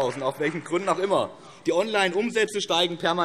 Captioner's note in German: Beifall BÜNDNIS 90/DIE GRÜNEN